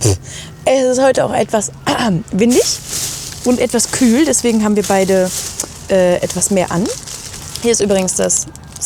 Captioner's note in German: räuspern